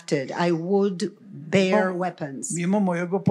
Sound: foreign language

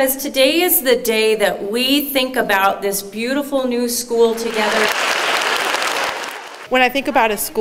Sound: applause

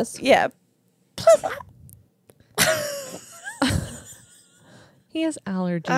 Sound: huffs

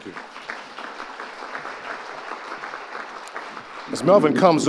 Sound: audience applauding

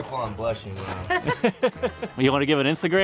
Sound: laughs

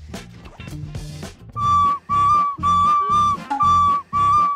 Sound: beep- Beep, beep

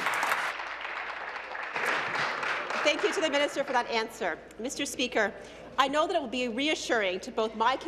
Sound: applause

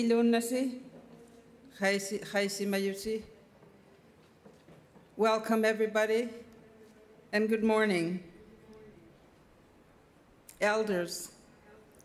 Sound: speaking Indigenous Language

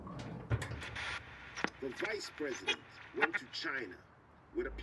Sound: radio static; man speaking English on radio

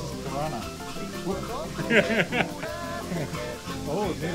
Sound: laughs

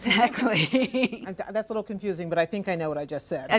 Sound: laughs

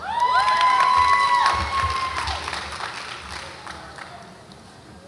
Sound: audience applauds and cheers

